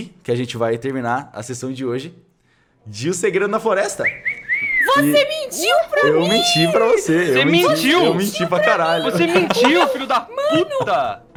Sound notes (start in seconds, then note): 3.9 whistling; 9.3 laughing